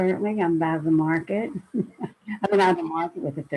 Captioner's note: laughs